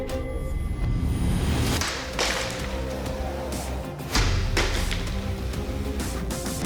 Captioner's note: pots shattering